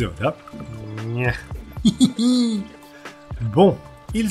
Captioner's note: laughs / funny noises